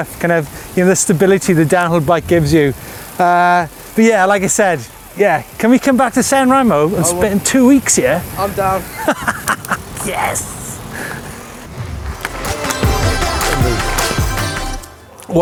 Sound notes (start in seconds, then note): 8.2 laughing; 13.4 upbeat music